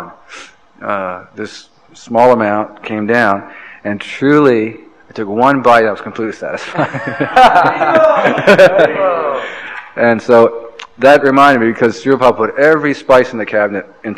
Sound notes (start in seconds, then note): 8.6 laughs